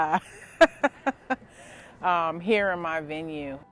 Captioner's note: laughs